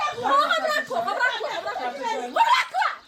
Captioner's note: laughter